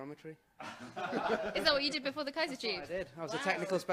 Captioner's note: laughter